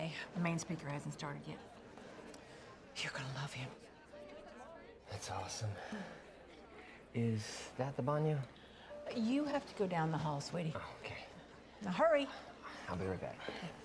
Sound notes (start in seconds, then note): none